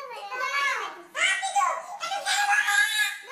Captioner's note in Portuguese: Menino gritando